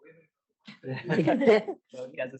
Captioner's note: laughter